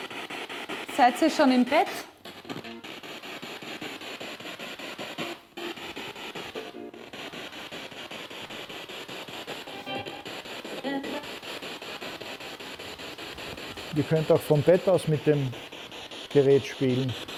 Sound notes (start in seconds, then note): 3.8 noise of the spiritbox in the background